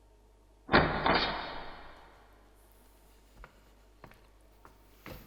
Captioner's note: metal slide of a door lock being re-latched; footsteps